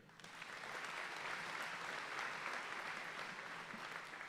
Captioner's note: audience applauding